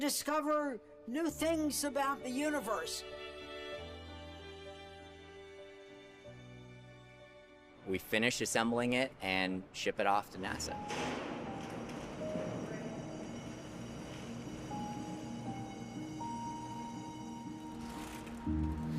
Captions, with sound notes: To discover new things about the universe. >> We finish assembling it and ship it off to NASA. [ bell ringing ]